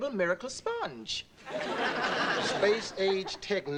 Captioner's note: audience laughing